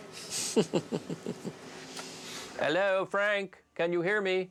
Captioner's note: chuckling